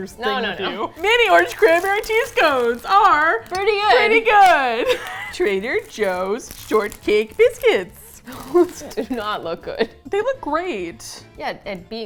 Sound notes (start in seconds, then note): 8.1 laughs